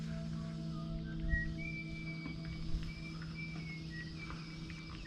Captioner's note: maintenance worker whisteling